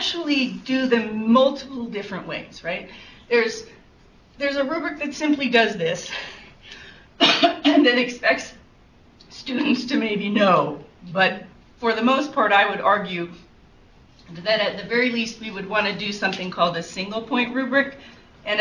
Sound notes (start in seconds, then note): 7.2 coughs